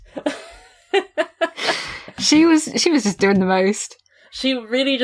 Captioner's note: sighs